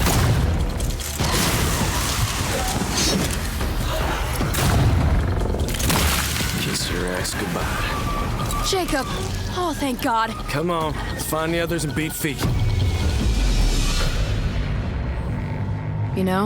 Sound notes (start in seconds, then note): 0.0 shotgun booms; 4.2 vampire roars